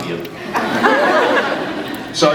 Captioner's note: scattered laughs